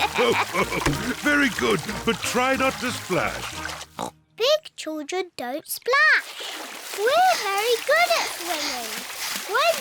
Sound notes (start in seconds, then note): 0.0 laughs; 3.9 oinks